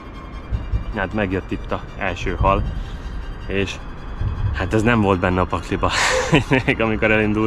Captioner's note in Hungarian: nevetés